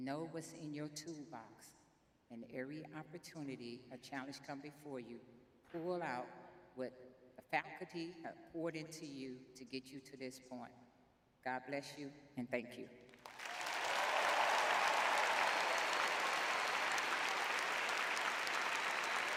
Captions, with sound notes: Know what's in your toolbox, and every opportunity, a challenge come before you, pull out what the faculty have poured into you to get you to this point. God bless you, and thank you. [audience cheers]